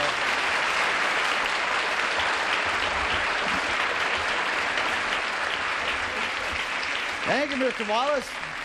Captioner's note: applause